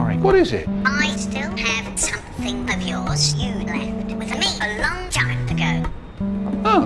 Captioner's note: through speaker